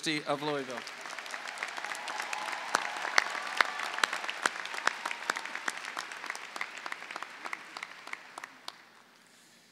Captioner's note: clapping